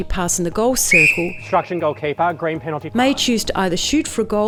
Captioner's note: whistle